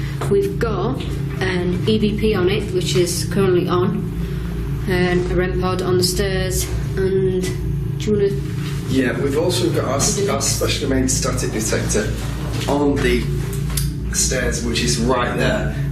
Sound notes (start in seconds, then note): none